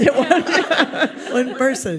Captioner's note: audience laughs